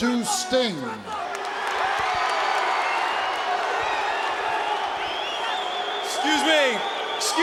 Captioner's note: applause